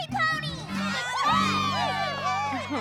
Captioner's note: all cheering